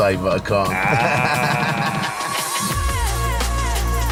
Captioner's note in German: Lacht